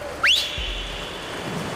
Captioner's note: whistle